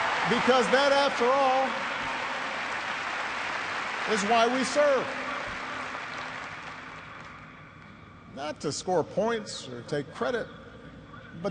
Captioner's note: cheers and applause